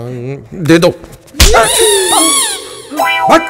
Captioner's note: Slaps